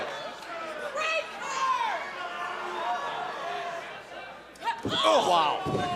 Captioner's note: crowd chatter